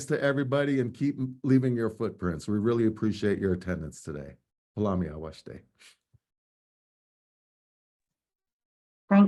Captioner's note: speaking native language